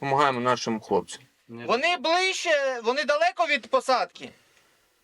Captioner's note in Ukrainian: у рацію